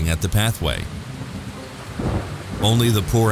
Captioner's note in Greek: βροντή